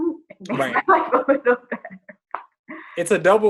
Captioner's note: laughing, stammering